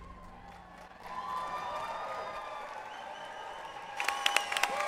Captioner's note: audience applauds